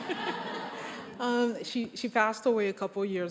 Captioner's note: crowd laughing